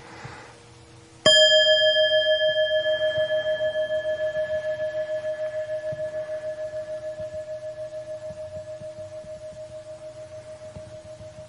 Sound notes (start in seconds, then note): 1.3 bell chiming